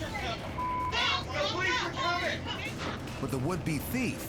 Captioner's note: overlapping shouting, cursing